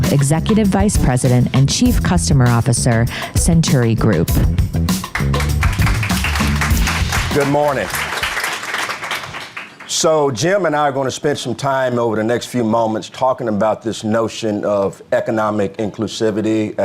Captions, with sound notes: executive vice president and chief customer officer, Centuri Group. (audience applauding) - Good morning. So Jim and I are gonna spend some time over the next few moments talking about this notion of economic inclusivity,